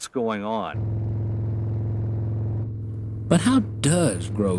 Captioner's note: motor humming